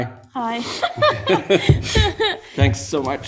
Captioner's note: laughing